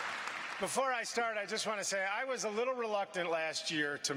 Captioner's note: applause